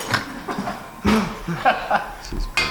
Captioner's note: laughs